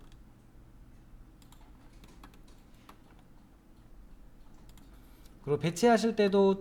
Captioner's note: silence